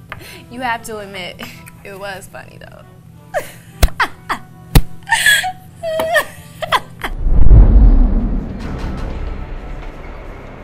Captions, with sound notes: You have to admit, it was funny though. (woman laughing) (dramatic drumming)